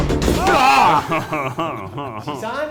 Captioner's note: screams; laughs in French